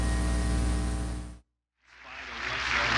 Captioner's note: audience applauding